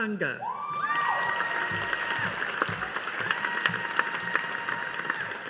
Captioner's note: audience applauding